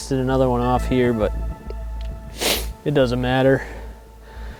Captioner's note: sniffles